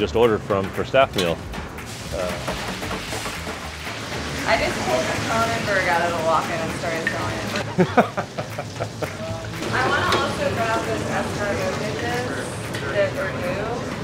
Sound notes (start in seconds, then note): 7.7 laughing